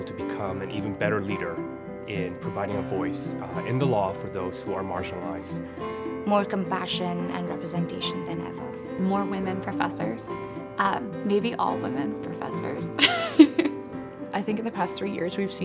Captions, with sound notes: to become an even better leader in providing a voice in the law for those who are marginalized. More compassion and representation than ever. More women professors, maybe all women professors. [LAUGHS] I think in the past three years, we've